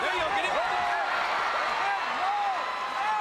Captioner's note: crowd cheers